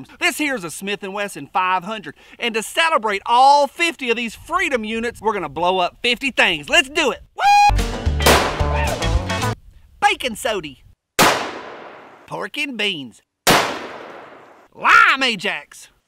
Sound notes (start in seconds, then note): 8.2 gun fires; 11.2 gun fires; 13.4 gun fires